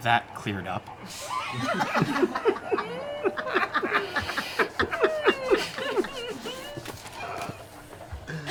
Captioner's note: laughter